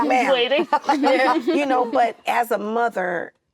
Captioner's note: actresses laughing